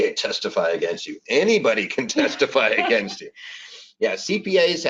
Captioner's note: laughs